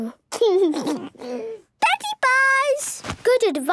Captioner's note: laugh